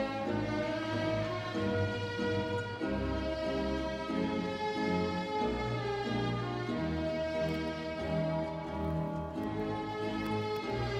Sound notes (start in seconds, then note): none